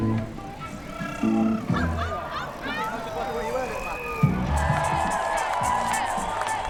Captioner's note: crowd exclaiming and cheering